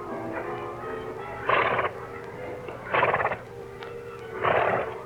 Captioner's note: horses snort